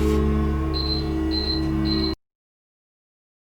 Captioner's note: beeping